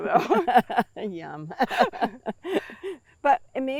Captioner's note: laughs